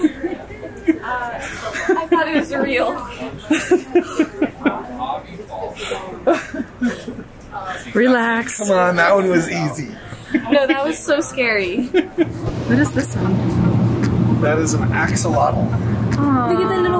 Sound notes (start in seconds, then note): 0.0 laughing; 3.5 laughing; 11.9 laughing